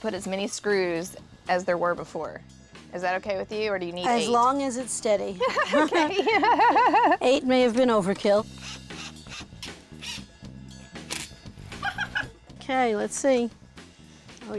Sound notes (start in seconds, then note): 5.4 both laugh; 10.0 motor whirring